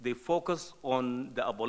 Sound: none

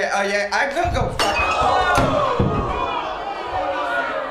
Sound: crowd reacts

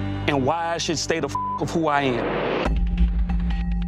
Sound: beep

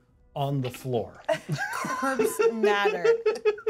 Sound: laughs

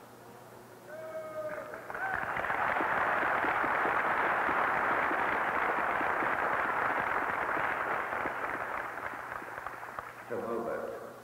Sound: cheering

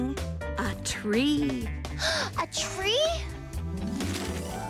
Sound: gasp

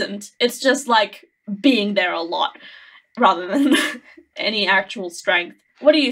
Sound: laughing

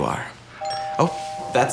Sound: doorbell rings

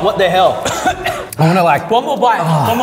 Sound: coughing

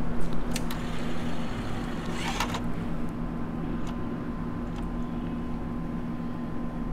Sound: sound of CD loading & read by DVD player

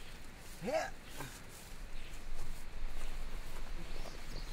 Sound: grunting

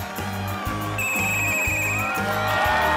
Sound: whistle blowing; group cheering

